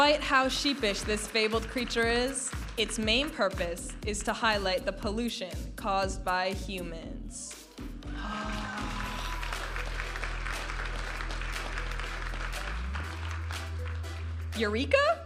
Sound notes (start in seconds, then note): 8.2 audience applauding and cheering; 11.9 upbeat music